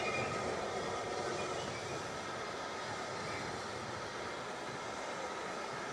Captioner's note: train passes